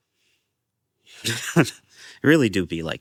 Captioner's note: laugh